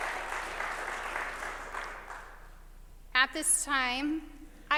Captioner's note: applause